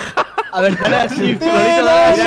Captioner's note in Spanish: risas